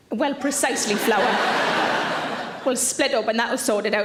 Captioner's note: audience laughing